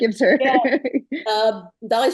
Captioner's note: chuckles